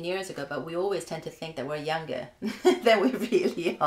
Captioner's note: laugh